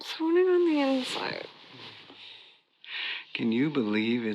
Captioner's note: bed covers rustle